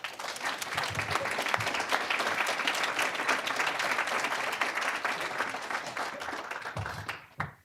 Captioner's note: applause